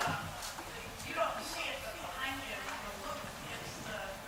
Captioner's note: woman's Voice